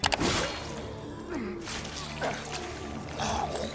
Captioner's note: grunting